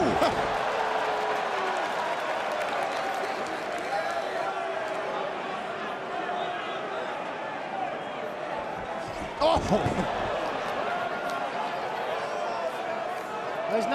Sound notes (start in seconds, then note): 0.0 crowd cheering; 2.0 crowd chatter